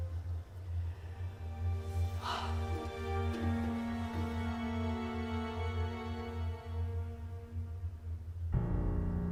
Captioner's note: soft music; Jackie sighs; dramatic music